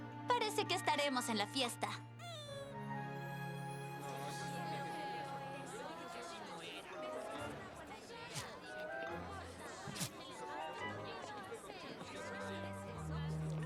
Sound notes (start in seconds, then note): 5.4 hum of conversation